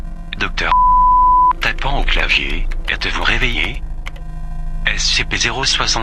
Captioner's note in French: Tapant au clavier